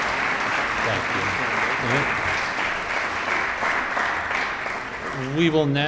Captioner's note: audience applauding